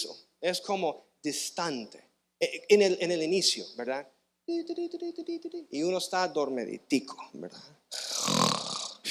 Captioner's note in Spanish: resoplido